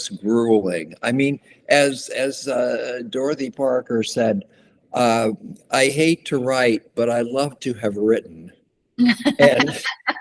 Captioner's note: laughter